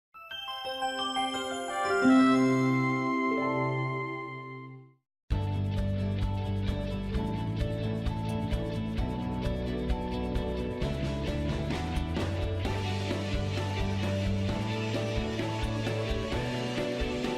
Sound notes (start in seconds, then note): 0.1 chiming; 5.3 cheerful music